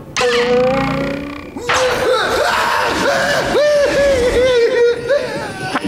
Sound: screaming

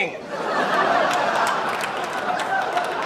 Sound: audience laughs and claps

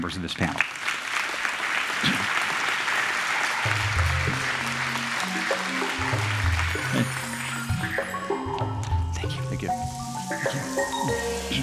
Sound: applause

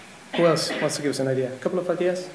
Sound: german

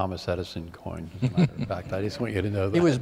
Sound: laughter

